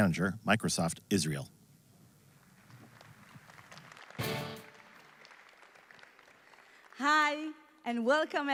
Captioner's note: applause